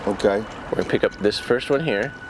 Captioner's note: clock ticking